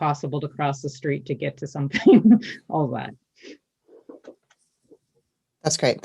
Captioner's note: laughs